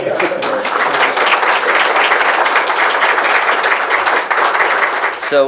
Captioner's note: applause